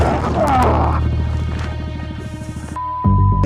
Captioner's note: man grunts; beep